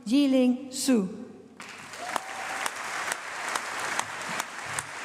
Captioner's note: applause